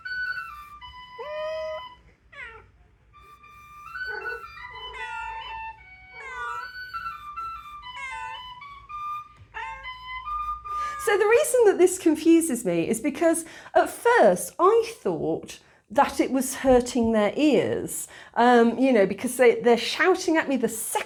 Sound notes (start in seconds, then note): 1.6 cats meowing; 1.6 whistling